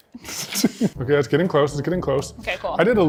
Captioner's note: laughs